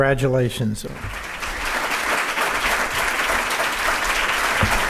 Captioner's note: audience applauding